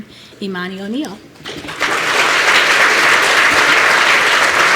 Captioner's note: applause